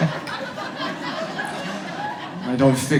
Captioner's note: audience laughs